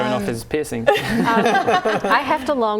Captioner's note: laughing